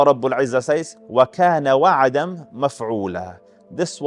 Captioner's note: Arabic